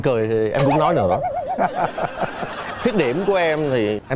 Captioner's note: laugh